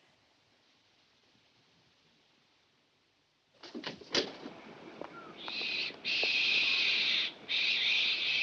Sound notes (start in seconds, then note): 5.1 bird squawking